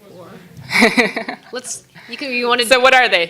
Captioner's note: laughing